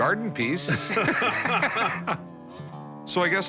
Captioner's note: laughter